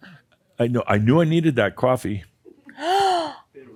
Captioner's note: gasps